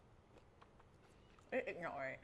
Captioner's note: eating sounds